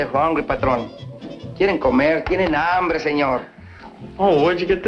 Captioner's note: speaking spanish